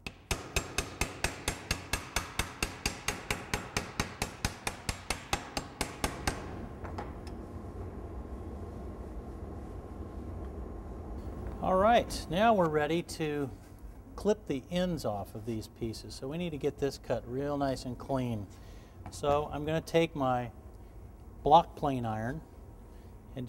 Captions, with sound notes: [ hammer banging edge banding ] bang bang bang bang bang bang [hammer hitting table] clunk clunk All right, now we're ready to clip the ends off of these pieces. So we need to get this cut real nice and clean. So I'm going to take my block plane iron